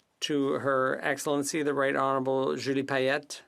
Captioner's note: speaking French